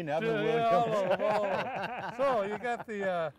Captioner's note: laughing